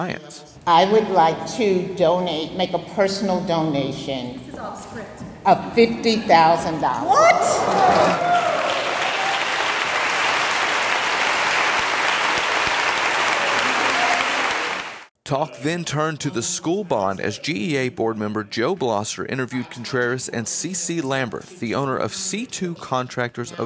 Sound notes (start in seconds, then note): 8.1 applause